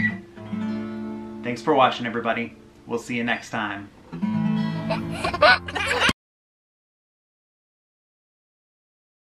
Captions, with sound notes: Thanks for watching, everybody. We'll see you next time. (laughing)